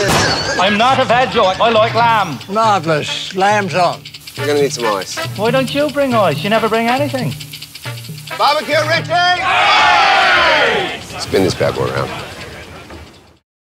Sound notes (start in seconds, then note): 9.6 crew all shout together